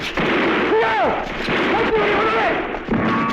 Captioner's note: non-english speech